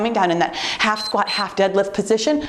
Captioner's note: timer beeps